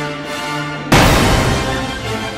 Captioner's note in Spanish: BANG x2